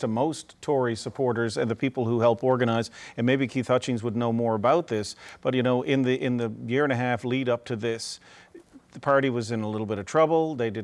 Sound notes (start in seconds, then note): none